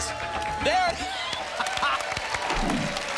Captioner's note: laughs; applause and cheering cont